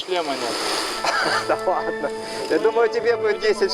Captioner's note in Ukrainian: сміх